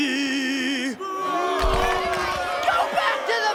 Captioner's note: booing